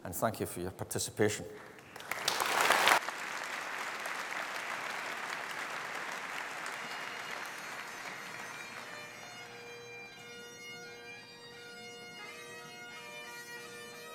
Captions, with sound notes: and thank you for your participation. (APPLAUSE) (BAGPIPES PLAY)